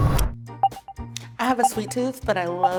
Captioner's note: pounding music; timer beeping